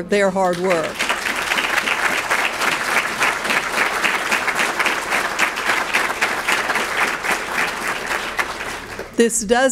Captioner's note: clapping